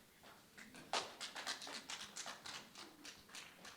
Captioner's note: scattered clapping